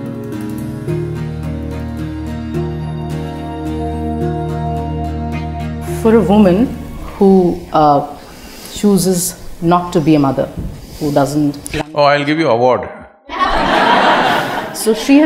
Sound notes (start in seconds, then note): 13.3 laughter